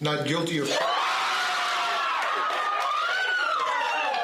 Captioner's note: cheering